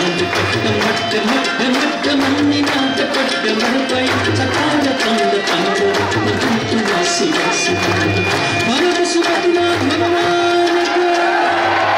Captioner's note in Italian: Applauso